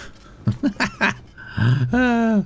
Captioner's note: laughs